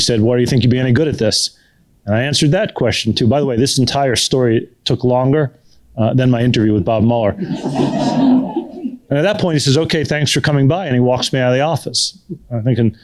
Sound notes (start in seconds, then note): 7.4 laughter